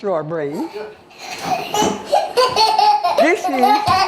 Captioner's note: baby giggling